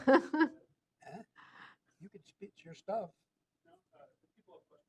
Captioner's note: laughter